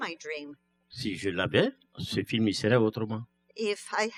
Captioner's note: speaking french